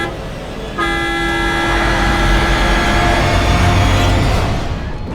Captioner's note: tires squealing